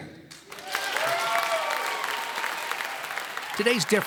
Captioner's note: applauding